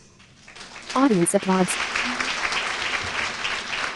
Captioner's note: applause